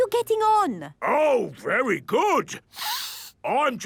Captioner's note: sniffs